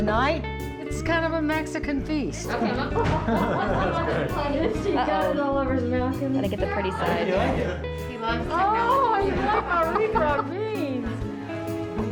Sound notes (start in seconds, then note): 2.6 laughter